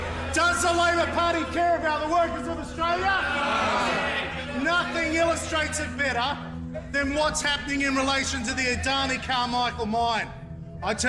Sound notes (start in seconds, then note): 4.1 shouting: No!